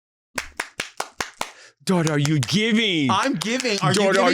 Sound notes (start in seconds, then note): 0.3 clapping